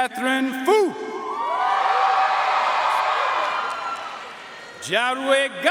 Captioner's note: audience cheering and applauding